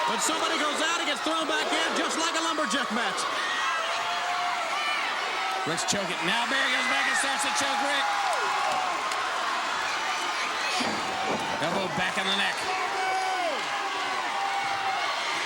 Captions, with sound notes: When somebody goes out and gets thrown back in, just like a lumberjack match. Ric's choking, now Barry goes back and starts to choke Ric. (blows thudding) Elbow back on the neck. (body thudding)